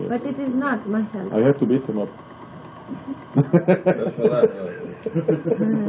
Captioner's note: laughing